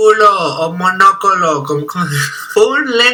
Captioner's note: laughter